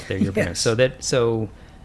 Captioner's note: chuckles